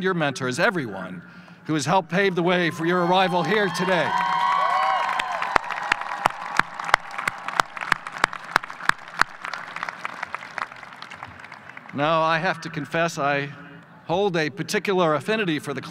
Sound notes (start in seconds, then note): 4.2 audience applause; 5.9 claps